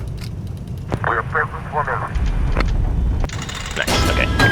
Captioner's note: crew chatter